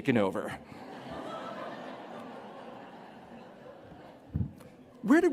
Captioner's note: laughter